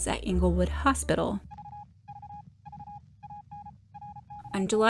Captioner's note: morse code beeps